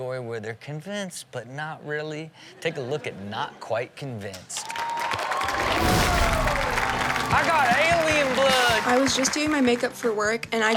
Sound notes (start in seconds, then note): 4.6 audience applauds; 5.6 upbeat music